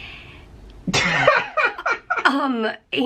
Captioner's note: laughing